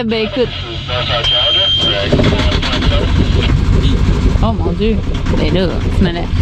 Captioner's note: Exchanges on VHF + sound of the Yanmar 2 cylinder diesel engine starting